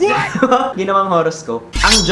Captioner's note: laughs